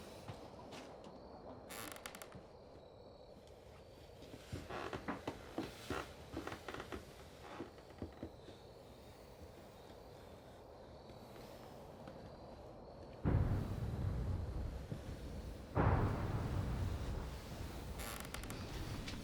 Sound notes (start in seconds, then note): 6.3 stairs creaking; 13.2 thunder booming